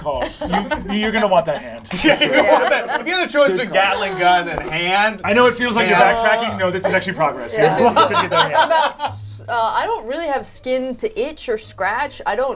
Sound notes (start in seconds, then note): 2.7 all laugh; 7.7 laughs